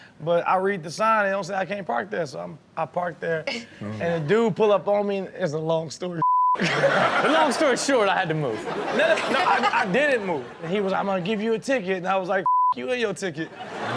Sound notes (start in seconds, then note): 6.2 beep; 6.6 audience laughs; 8.7 audience and Chanel laugh; 12.4 beep; 13.4 audience laughs